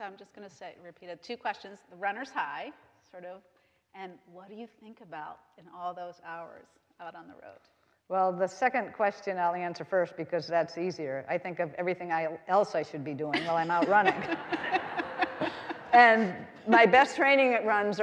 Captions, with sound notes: - So I'm just gonna say, repeat it. Two questions, the runners high sort of, and what are you think about in all those hours out on the road? - Well, the second question I'll answer first because that's easier. I think of everything I else I should be doing while I'm out running. (all laughing) And my best training at runs